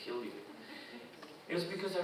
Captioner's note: audience chuckling